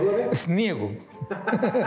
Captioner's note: laughs